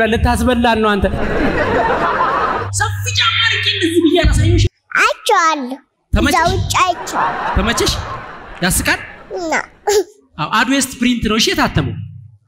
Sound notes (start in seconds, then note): 1.0 laughter; 6.8 laughter